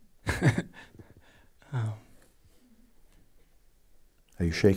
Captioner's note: questioner laughs